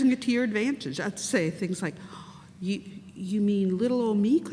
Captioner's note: gasps